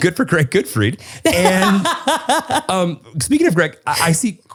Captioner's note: laughs